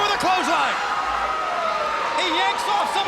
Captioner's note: crowd cheering